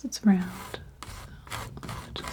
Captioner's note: scratching